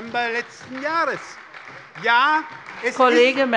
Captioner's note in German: Beifall bei der SPD